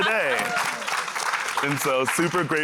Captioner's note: applause